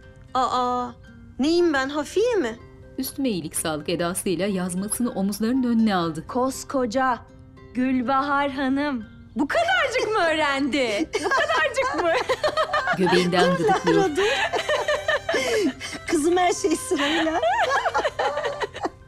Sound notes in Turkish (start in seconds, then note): 12.5 Gülme sesi; 14.3 Gülme sesi